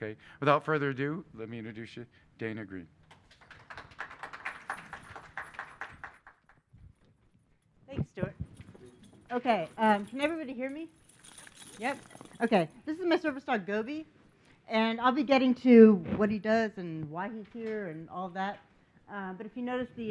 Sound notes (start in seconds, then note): 5.1 applause